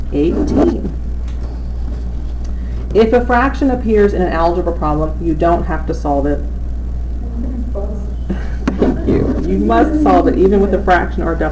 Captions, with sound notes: 18 If a fraction appears in an Algebra problem, you don't have to solve it. [Laughter.] You must solve it even with the fraction or decimal.